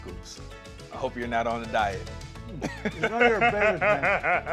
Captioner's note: laughs